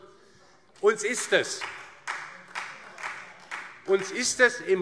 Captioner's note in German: Vereinzelter Beifall DIE LINKE und SPD